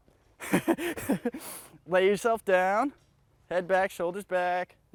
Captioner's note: laughs